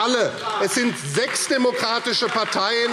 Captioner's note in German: Vereinzelter Beifall AfD